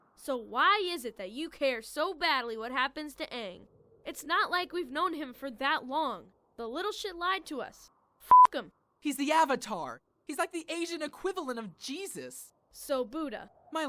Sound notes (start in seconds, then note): none